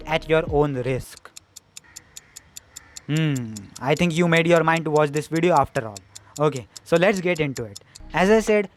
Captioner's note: tik tok tik tok